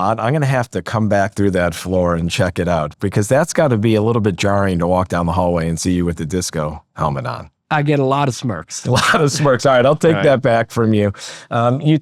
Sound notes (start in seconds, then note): 8.8 laughs